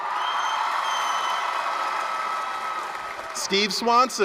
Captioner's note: applause, cheering